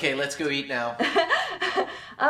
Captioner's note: laughing